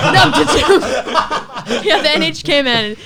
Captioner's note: laughs